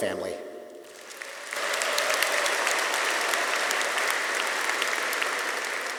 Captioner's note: audience applauding